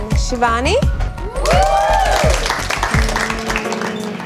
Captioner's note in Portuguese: Aplausos